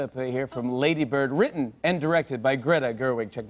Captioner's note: none